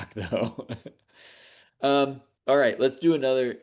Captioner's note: laughs